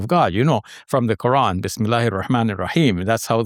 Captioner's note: foreign language